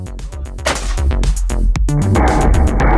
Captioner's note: gunshots